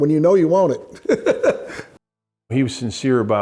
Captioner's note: laughs